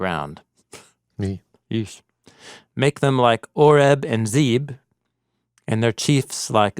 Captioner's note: scoffs